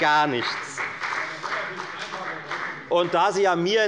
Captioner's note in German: Beifall bei der FDP